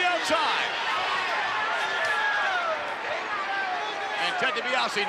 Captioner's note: crowd clamors